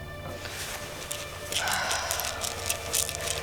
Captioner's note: pills rattling